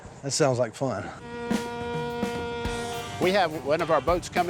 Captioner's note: boat horn sounding